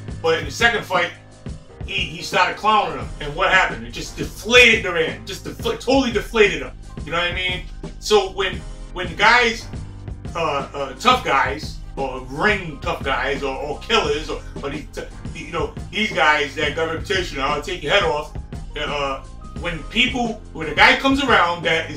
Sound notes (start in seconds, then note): 15.0 stutters